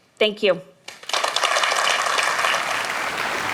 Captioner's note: applause